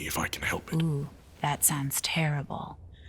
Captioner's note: mocking